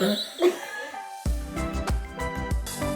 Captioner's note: laughs; upbeat music